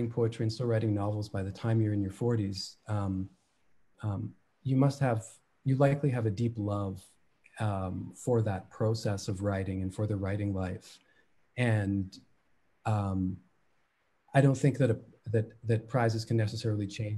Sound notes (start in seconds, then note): none